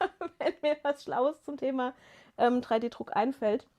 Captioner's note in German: gelächter